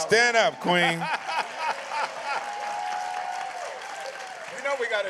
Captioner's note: applause